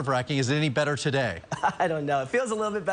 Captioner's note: laughs